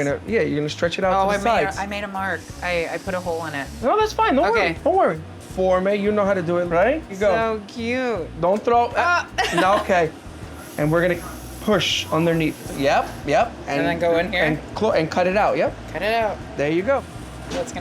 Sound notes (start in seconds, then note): 9.3 laughs